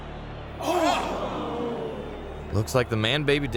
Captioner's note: spectators gasp en masse